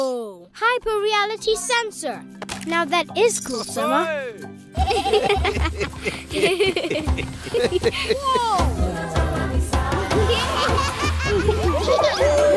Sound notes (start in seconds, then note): 4.8 laughing; 10.0 all laughing